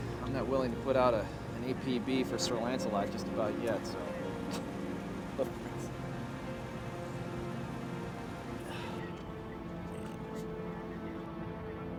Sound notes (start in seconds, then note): 4.6 scoffs; 6.8 soft tense music